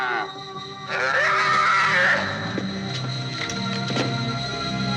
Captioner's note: calf squealing